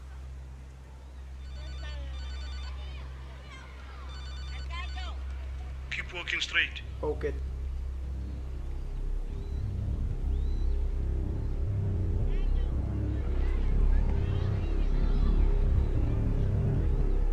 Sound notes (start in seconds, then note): 1.4 phone Rings